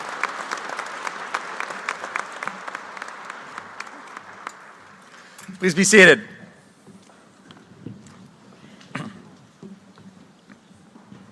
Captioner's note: applause